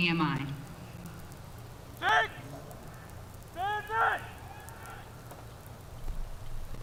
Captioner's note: shouted commands; drum roll